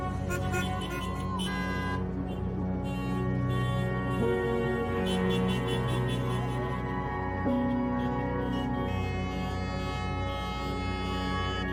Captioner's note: car horns honking